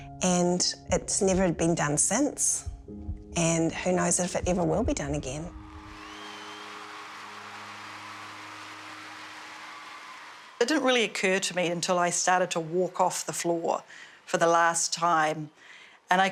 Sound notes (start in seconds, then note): 5.6 crowd cheering